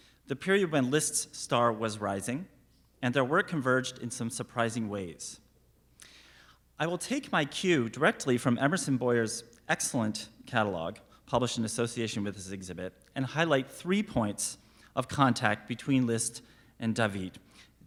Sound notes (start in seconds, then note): none